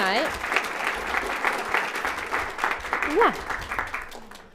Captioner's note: applauds